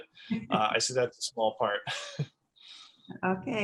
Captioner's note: laughs